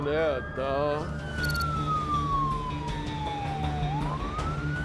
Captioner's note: sirens wailing